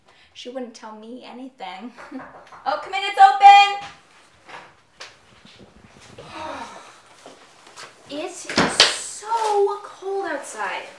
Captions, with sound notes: She wouldn't tell me anything. [Knocks on the door] Oh, come in, it's open. [in a sigh] Hooo.... It is so cold outside...